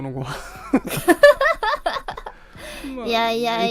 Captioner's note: both laughs